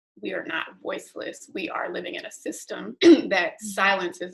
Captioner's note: clears throat